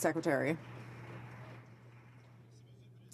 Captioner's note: some Applause